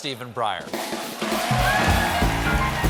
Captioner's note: applause